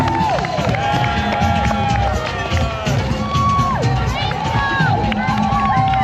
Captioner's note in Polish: Aplauz